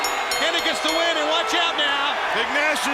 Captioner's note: bell ringing; crowd cheering